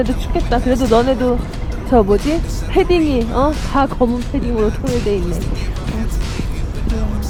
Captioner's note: as korean